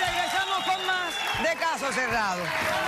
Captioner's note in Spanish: aplausos; silbidos